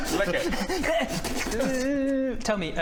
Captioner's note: frantic slurping